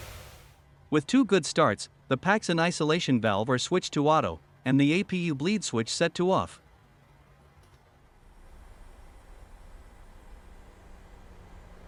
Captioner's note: engine